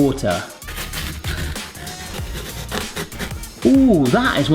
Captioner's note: pear scraping